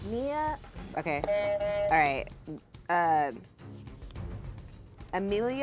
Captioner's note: buzzer buzzes